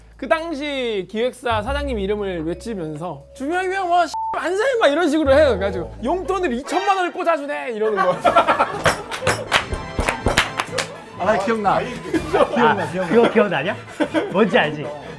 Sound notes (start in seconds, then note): 8.2 shock